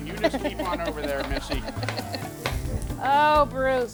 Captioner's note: giggling